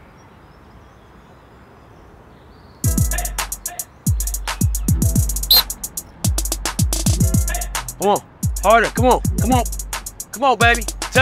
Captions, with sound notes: (whistle blowing) - Come on. Harder. Come on, come on. Come on, baby.